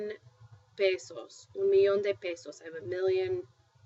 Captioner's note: spanish